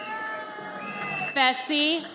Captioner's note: audience cheers